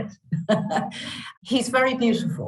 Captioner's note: chuckles